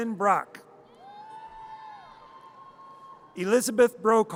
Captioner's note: audience cheers